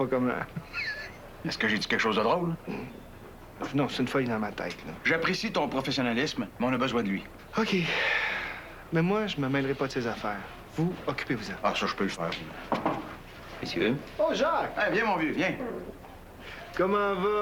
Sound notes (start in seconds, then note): 7.9 Soupir; 12.7 On frappe à la porte